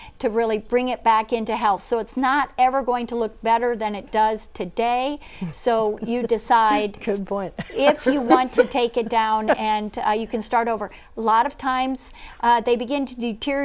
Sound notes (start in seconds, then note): 10.1 laughing